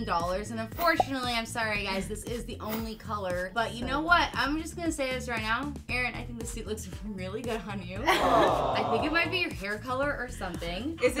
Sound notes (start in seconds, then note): 8.0 awe crowd sound effect